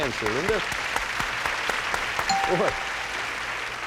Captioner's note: applause; bell rings